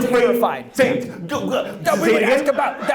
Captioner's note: stammers